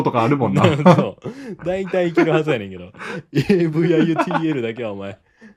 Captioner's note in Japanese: 笑い